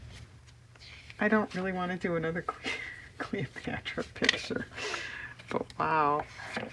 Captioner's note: laughs